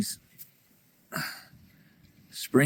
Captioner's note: sighs